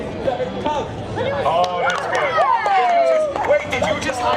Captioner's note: people cheering